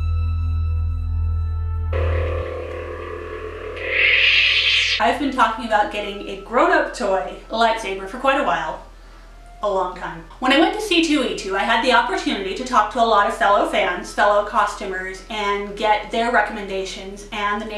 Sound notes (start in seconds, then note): 3.7 shutoff sound effect